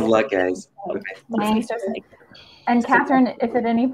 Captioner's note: chatter